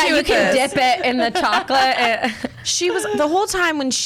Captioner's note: laughs